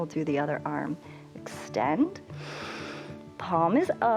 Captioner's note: inhales